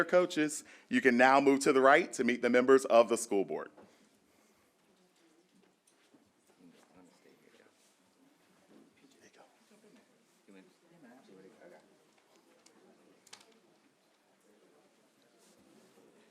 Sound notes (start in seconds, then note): 4.2 background talking